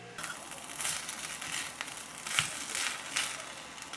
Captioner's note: sizzling